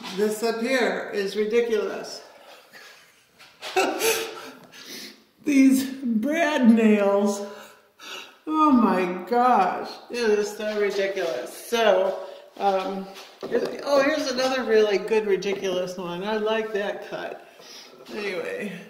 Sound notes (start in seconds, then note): 2.4 laughs